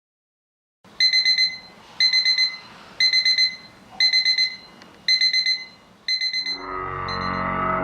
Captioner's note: alarm Beep